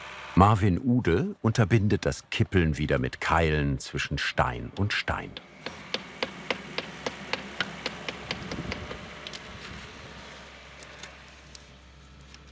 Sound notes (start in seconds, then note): 5.6 knocking; 10.1 excavator hum moves away